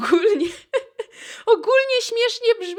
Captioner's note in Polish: śmiech